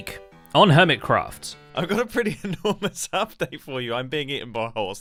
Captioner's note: laughing